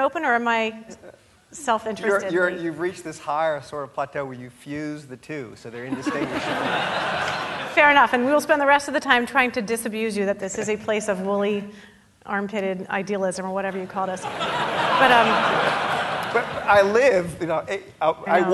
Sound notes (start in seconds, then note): 5.8 audience laughing; 14.0 audience laughing